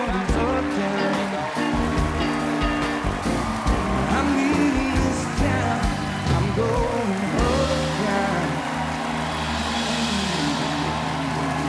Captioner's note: applause